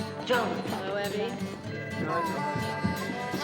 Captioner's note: telephone ringing